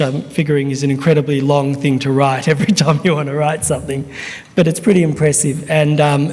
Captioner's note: chuckles